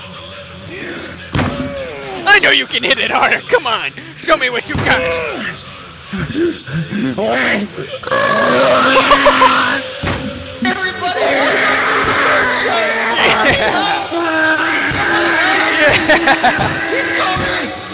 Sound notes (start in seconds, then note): 8.0 burp; 10.6 Boons on the intercom